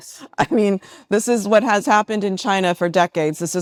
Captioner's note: laughs